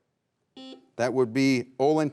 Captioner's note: buzzer beeps